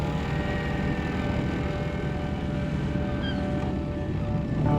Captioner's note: engine rumbling; sea gulls squawking